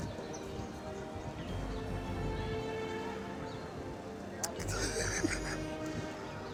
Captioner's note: choked up